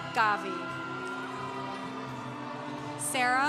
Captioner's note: congregation cheering